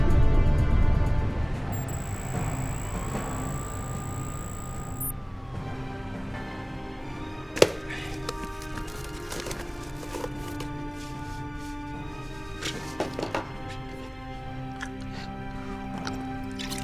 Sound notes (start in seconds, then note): 1.7 text beeping